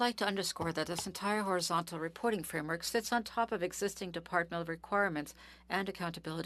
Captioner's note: speaking French